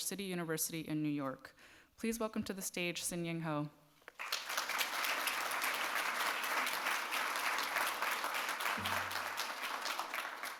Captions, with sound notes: City University in New York. Please welcome to the stage Sin-ying Ho. (audience claps)